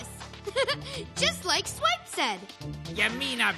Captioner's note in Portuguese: Risos